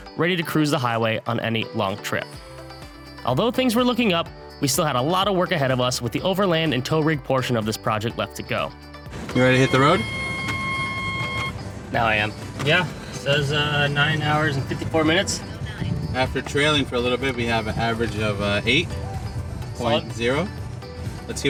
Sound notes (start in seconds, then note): 9.1 car beeping; 11.9 beeping stops